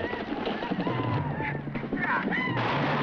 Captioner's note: grunting; guns firing